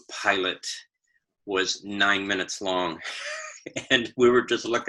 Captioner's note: laughs